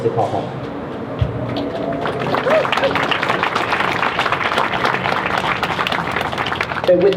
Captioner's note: crowd claps